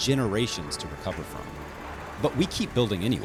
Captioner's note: machines rumbling